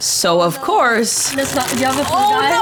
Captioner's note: friends chattering; plastic rustling